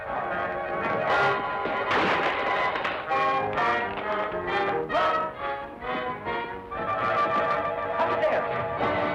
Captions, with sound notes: (chair crashing) - Run! Up the stairs!